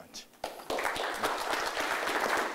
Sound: applause

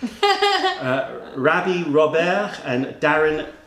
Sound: laughter

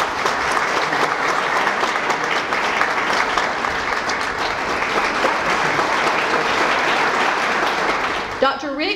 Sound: applause

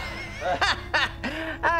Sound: laughing

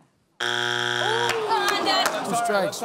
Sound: buzzer sounds

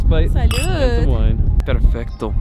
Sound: glasses clink; speaks foreign language

